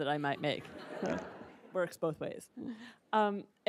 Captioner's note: attendees laughing